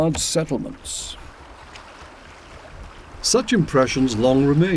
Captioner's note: waves lapping